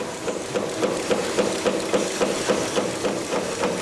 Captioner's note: knocking noises